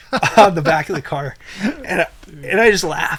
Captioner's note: laughs